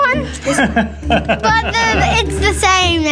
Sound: laughs

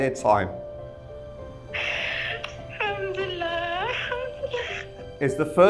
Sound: A woman gasps and cries on the line

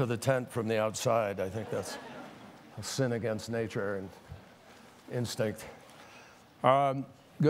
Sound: laughter

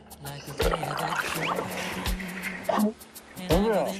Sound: swoosh

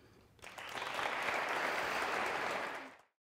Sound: applause

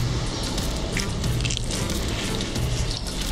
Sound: crunch!

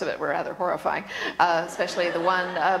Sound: laughter

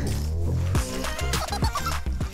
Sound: haha

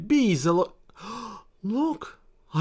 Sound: gasp

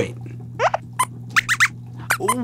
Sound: squeaks squeaks

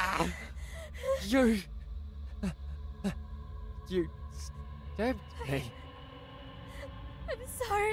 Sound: yells; cry of pain

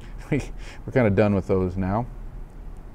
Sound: chuckles

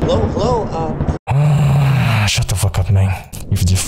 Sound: groan

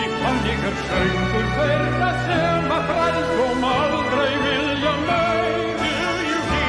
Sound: Icelandic

